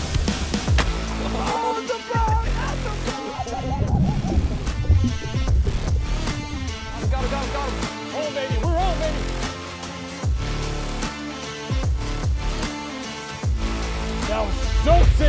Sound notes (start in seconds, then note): 1.3 cheering